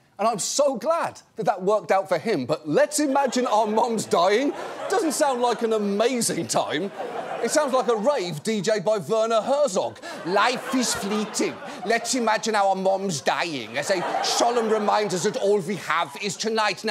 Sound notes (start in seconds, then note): 10.1 imitating werner herzog